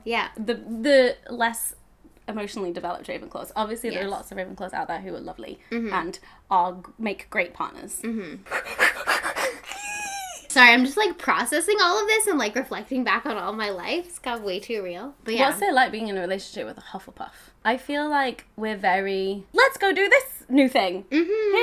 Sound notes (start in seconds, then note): 8.4 breaths rapidly